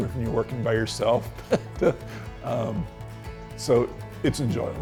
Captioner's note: laughs